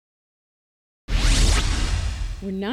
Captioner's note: electronic whoosh